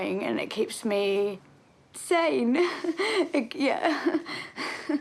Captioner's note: chuckles